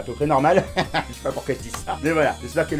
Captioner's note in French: rires